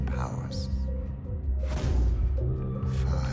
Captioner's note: gun fires